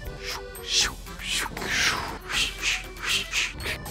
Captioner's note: skating mouth sounds